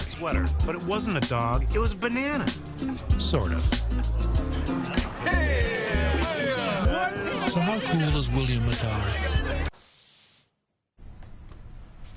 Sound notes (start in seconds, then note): 6.7 shouting